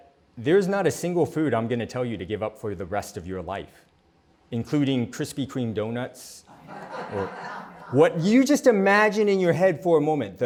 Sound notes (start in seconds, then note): 6.6 laughter